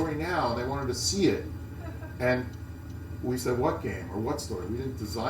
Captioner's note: laugh